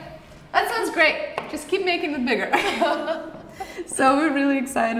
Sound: both laugh

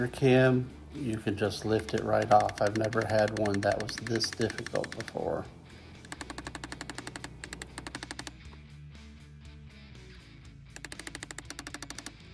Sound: hammering

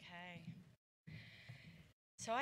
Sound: none

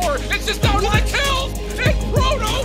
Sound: excited

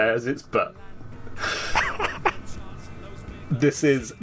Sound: stunned laughter

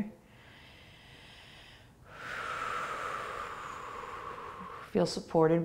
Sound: breathing

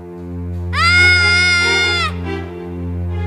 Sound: screams

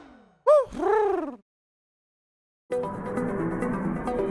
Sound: Huti hoots; tense music

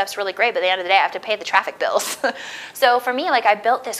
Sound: laughs

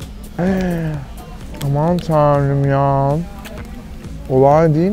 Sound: gasps

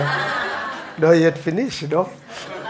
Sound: audience laughing

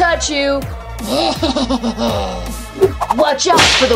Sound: laughing sinisterly

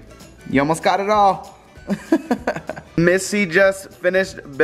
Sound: laughs

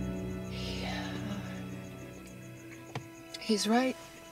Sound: sighing

